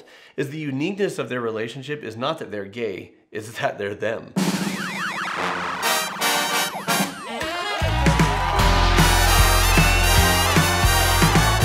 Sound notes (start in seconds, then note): 5.8 bright jazzy music; 7.8 audience cheering